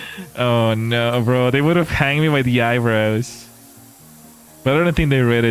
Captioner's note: laughter and gasps